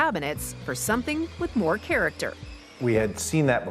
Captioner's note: drill drilling